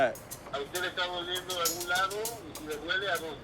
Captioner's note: speaking spanish